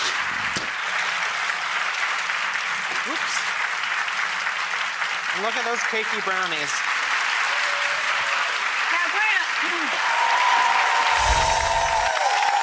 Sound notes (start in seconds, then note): 0.1 audience applauding; 7.2 audience applauding; 10.3 audience cheering and applauding; 11.1 musical chimes tinkling